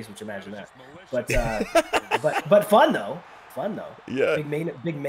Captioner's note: laugh